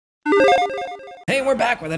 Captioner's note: logo beeping